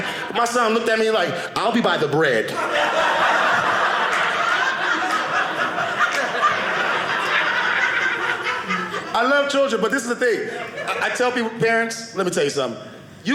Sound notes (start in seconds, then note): 2.5 audience laughing